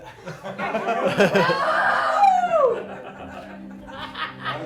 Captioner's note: laughter